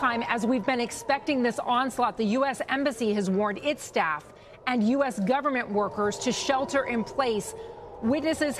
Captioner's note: sirens